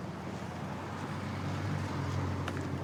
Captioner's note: vehicles driving